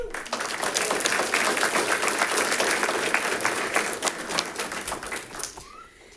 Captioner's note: audience applauding